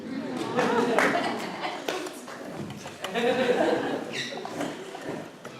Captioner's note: laughter and cheering